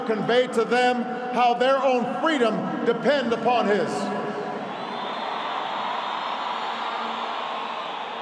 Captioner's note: applause